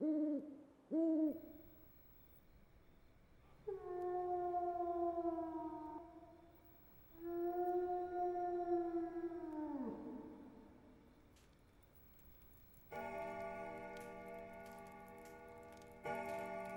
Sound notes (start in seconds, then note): 0.9 owl hooting; 3.4 distant howling echoes; 12.9 clock chiming